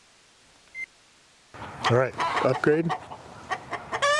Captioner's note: chickens squawking